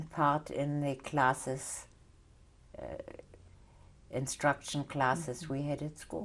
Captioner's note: pauses for 3 seconds